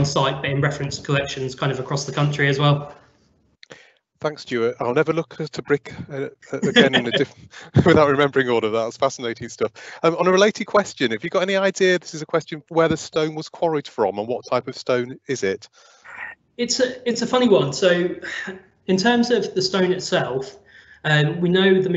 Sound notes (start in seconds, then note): 7.2 laughs